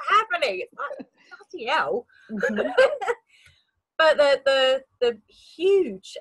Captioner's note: laughs